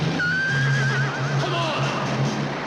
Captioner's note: horse whinnies